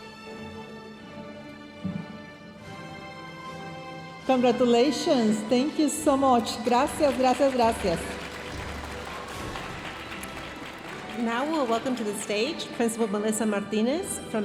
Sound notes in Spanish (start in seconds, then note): 4.3 hablando en inglés; 8.4 aplausos de la audiencia; 11.1 hablando en inglés